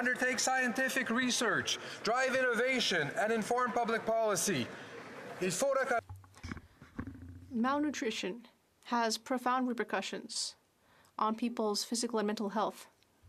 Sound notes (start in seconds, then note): 9.6 speaking French